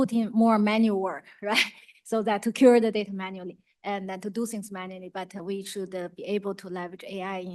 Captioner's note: laughs